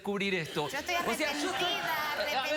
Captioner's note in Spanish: risas